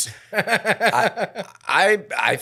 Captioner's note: laughing